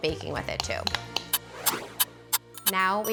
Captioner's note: timer ticking